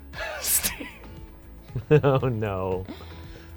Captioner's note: laughing